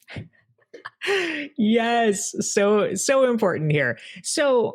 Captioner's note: laughs